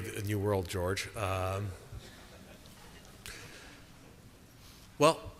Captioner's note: chuckling